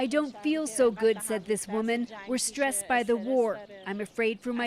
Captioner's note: speaking alternate language